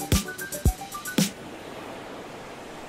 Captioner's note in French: Ressac des vagues